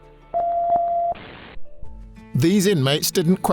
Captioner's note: beep